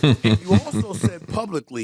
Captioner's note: laughs